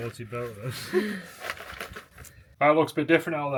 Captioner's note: laughing